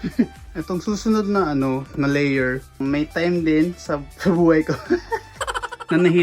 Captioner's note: laughs